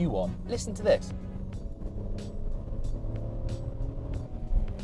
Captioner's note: engine revs smoothly